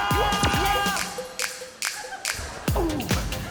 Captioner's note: clicks